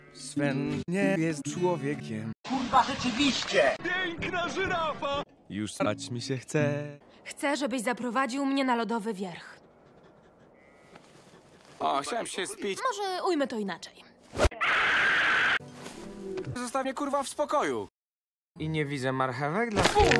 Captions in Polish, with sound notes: Swen nie jest człowiekiem K*rwa rzeczywiście, piękna żyrafa już srać mi się Chce Chce żebyś zaprowadził mnie na lodowy wierch A chciałem się spić Może ujmę to inaczej *krzyk* Zostaw mnie k*rwa w spokoju i nie widzę marchewek...